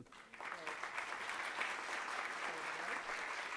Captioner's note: applause